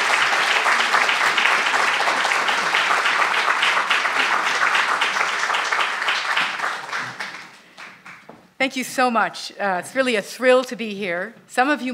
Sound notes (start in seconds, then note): 3.7 applause